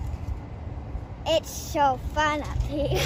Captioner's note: laughs